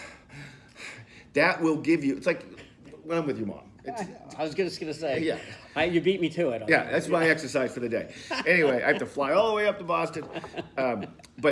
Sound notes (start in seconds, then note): 8.1 laughing